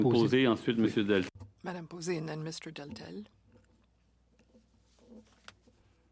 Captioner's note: speaking French